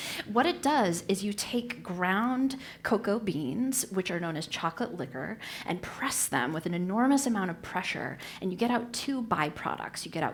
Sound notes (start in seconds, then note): none